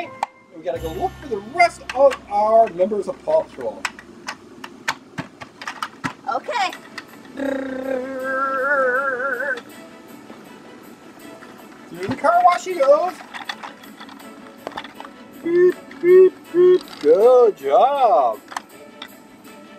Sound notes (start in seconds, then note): 5.1 toy clicking; 7.5 mimics car engine